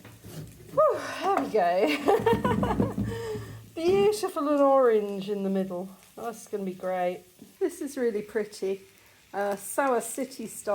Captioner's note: laughing